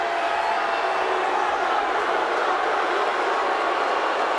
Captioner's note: audience booing